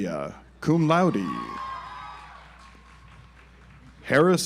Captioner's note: audience applauds